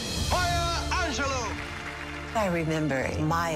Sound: audience applauding

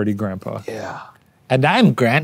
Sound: breathy; imitating old woman

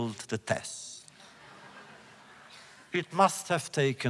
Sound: laughter

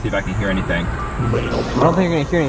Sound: static buzz

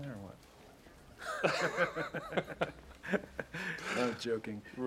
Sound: both laugh

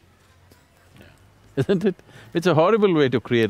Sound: laughs

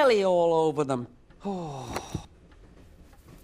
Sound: he sighs

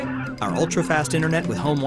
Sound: laughing

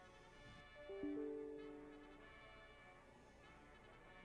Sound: email alert

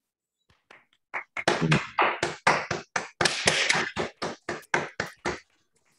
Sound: clapping

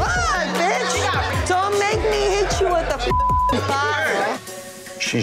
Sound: beeping

